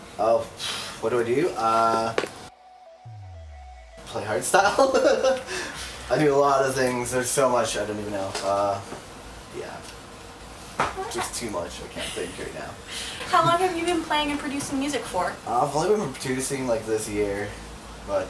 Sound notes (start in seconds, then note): 5.4 laughs